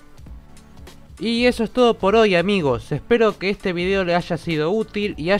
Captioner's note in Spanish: Voz en off, con entusiasmo